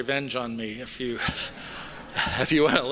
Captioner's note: laughter